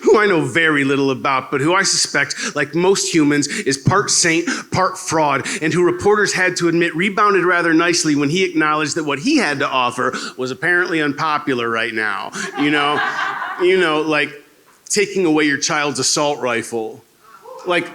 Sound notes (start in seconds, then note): 12.4 laughter